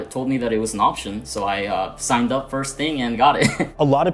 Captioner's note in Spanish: ríe